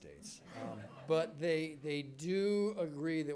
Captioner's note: attendees laughing